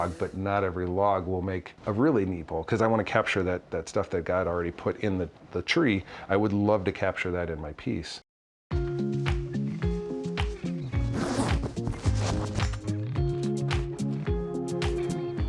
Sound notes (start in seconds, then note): 8.8 upbeat music; 11.0 zipper zips; 12.8 upbeat music